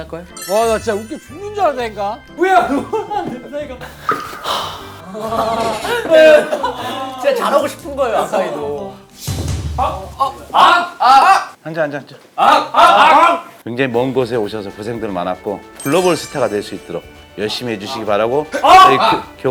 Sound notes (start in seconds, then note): 4.4 sigh